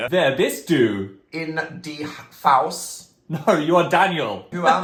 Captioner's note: speaks in German